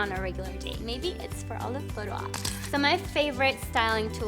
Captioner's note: camera clicking